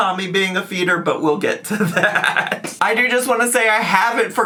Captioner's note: laughs